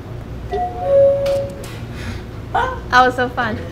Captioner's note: chiming